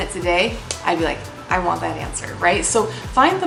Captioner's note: smacking palm